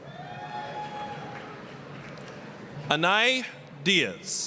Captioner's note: applause, cheering